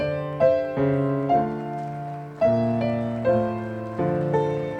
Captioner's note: audience applauding